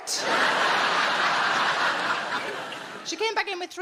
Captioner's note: audience laughing